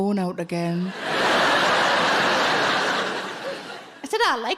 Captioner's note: audience laughing